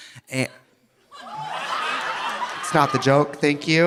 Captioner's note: audience laughing